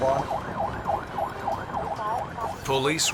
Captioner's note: siren continues